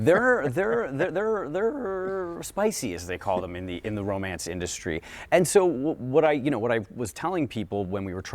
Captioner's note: laughter